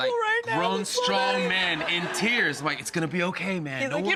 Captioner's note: audience laughs